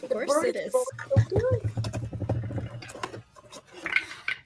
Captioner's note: dice rolling